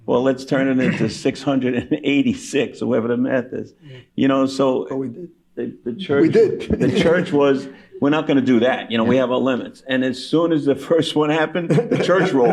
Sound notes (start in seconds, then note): 6.0 laughing